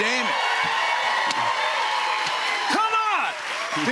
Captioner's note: cheers and applause